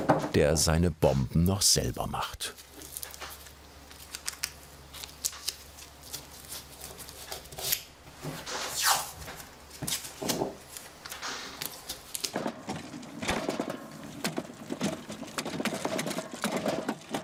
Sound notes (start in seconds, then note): 15.1 quiet rumbling